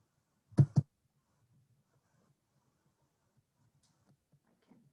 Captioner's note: microphone thudding